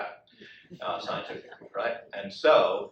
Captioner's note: audience laughs